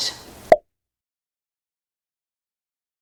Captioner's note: pop